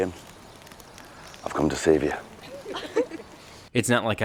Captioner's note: companions laughing